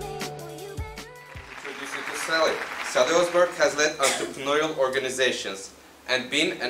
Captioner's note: applause